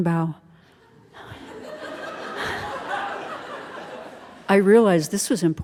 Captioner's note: audience laughing